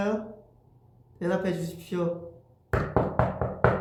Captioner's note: knocks on the table